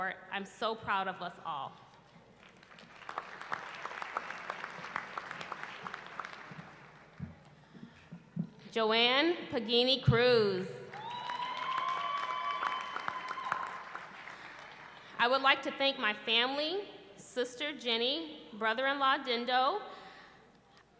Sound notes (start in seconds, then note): 2.3 applause; 10.9 cheering